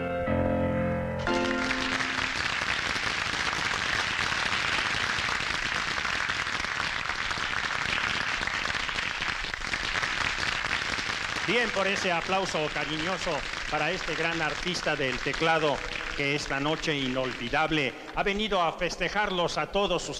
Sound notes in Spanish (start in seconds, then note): 1.0 Aplausos